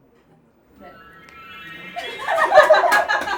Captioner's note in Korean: 청아하게 울려 퍼지는 요술봉 소리